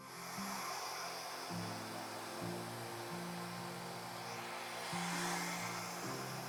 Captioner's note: gentle music; hair dryer whirring